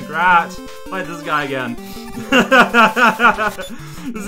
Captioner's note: laughs